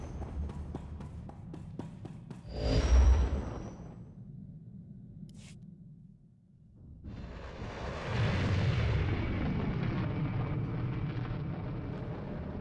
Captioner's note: air whooshing